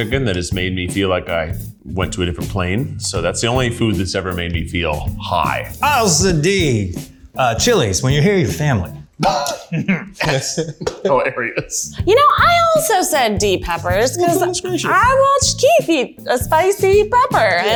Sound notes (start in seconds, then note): 9.2 laughs